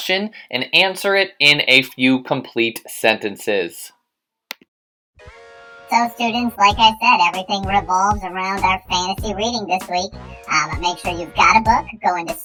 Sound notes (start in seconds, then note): 5.7 high voice